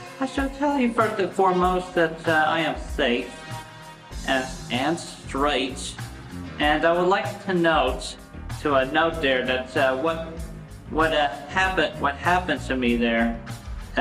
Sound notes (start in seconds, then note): none